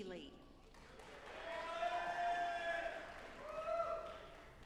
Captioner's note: audience applauding